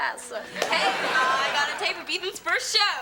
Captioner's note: audience laughing